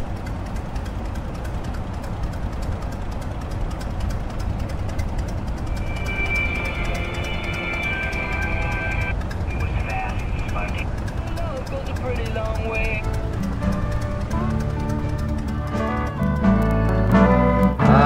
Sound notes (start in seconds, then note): 0.0 vehicle driving ambience; 6.1 radio station switching